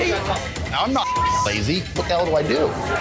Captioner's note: beep